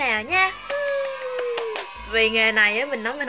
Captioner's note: clap